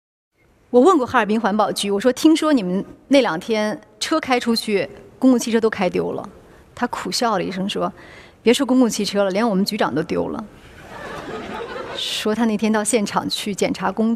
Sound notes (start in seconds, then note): 10.6 laughter